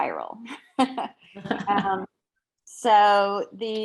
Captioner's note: laughing